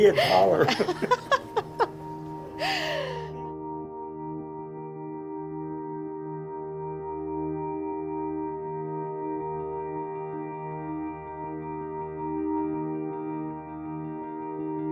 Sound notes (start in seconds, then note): 0.0 laughing